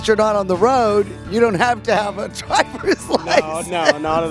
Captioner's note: laughs